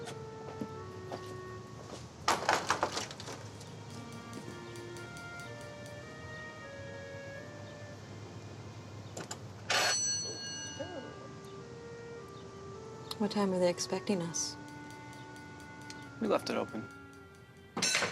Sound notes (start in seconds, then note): 2.4 fist rapping; 9.8 bell buzzing; 9.8 couple exclaiming